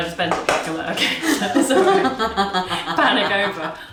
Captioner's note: both laughing